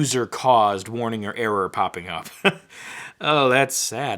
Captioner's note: chuckling